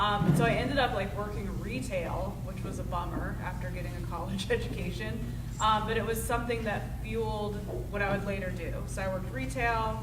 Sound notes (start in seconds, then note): none